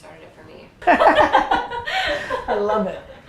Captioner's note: laugh